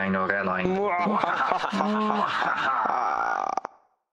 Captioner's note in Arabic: ضحكة شريرة